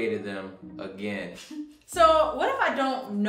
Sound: giggles

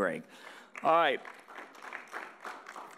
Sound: audience applauding

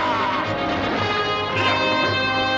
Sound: street noise

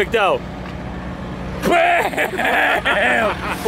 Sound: laughs

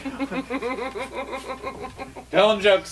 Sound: laughing

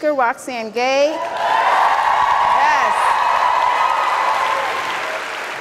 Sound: audience applauds

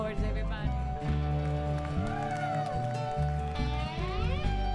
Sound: crowd applauds

